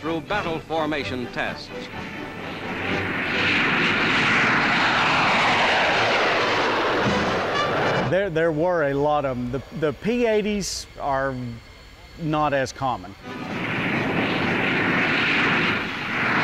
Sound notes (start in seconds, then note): 2.3 planes rumbling; 13.4 plane rumbling